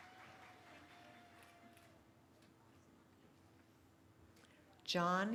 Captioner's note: cheering